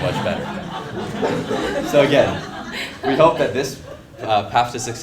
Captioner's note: laugh